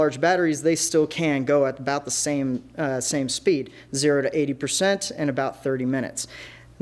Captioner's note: none